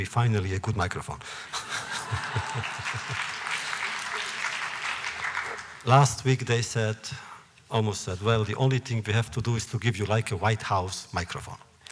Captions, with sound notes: finally, a good microphone. (laughter, applause) Last week they said, almost said, “Well, the only thing we have to do is to give you like a White House microphone.”